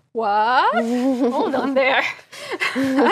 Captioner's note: laugh